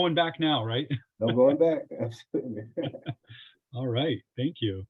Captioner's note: laughs